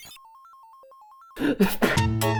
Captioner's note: sneeze